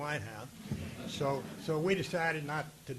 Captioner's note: audience laughing